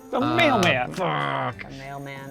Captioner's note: pat